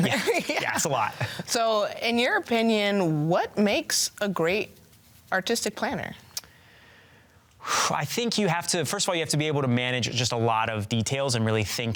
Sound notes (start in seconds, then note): 0.0 laughs; 6.4 sighs